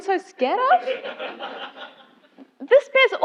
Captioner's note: laugh